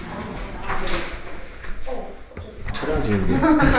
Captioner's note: door opening sound